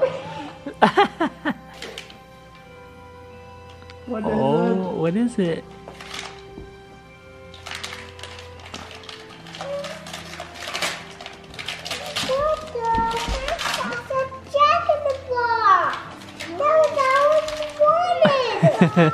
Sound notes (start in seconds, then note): 0.0 laughing; 7.5 paper rustling